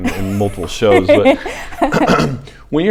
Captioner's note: laughs